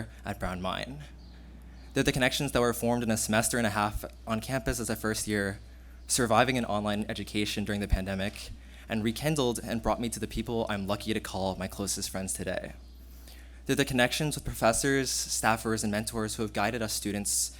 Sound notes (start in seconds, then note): none